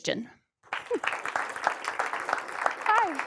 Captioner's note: applause